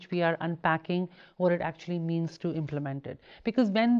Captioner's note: none